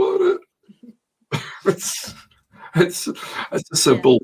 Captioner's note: both laughs